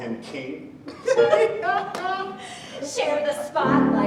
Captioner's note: laughs